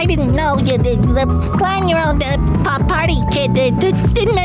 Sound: stammering

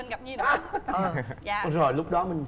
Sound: laughing

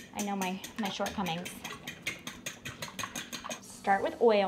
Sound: whisking

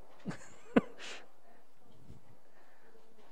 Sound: laughs

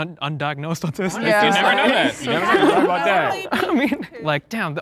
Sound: group laughing and murmuring in agreement

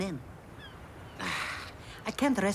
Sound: groans

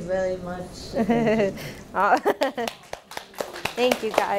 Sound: laughing and clapping

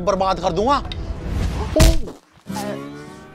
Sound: hits on ass

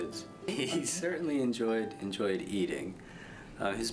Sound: laughing

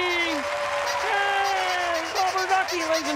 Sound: crowd cheering

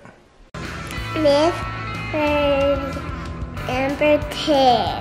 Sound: mumbles

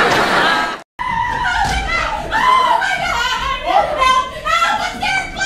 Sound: audience laughs; hysterical screaming

